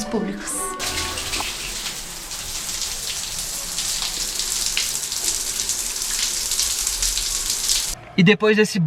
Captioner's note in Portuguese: Ruído de água caindo